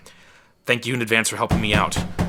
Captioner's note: door banging